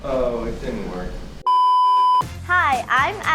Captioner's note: beep